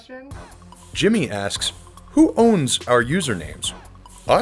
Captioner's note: voiceover